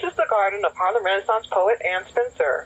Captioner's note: crickets chirping